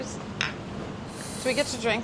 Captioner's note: glasses clinking